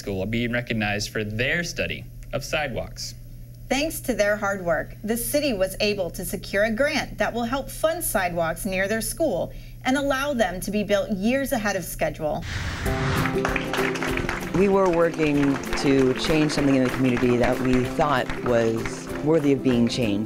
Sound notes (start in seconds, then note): 13.2 applause